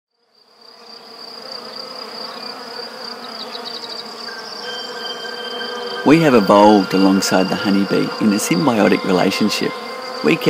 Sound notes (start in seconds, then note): 0.1 bees buzzing; 0.1 crickets chirping; 6.2 voiceover